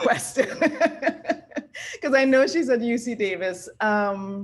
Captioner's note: laugh